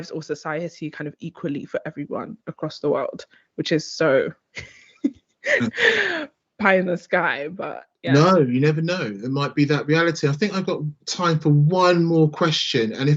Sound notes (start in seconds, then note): 4.7 chuckles